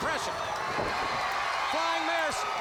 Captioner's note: crowd cheering